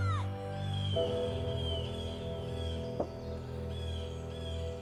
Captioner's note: birds chirping